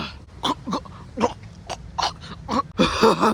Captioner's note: choking sounds